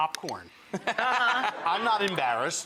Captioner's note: laughter